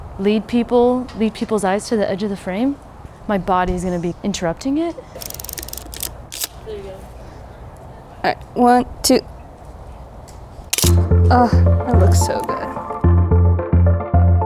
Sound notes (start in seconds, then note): 5.2 film roll advances; 10.7 shutter clicks